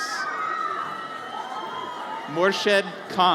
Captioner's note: audience cheers